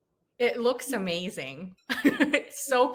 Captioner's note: chuckling